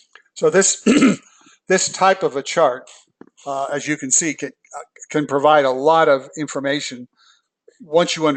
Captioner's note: cough